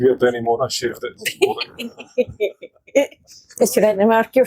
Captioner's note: laughter